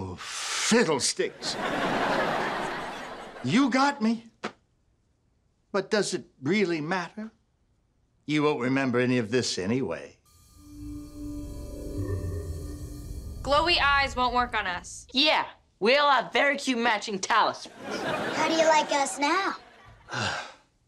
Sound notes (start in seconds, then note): 10.2 pulsating; 20.0 sighs